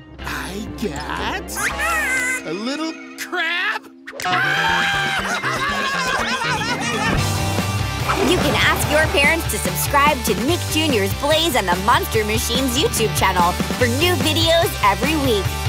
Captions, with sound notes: I got... a little crab? [screaming] You can ask your parents to subscribe to Nick Jr's Blaze and the Monster Machines YouTube channel for new videos every week.